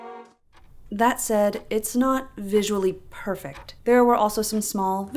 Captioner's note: hopeful orchestral music; tick-tock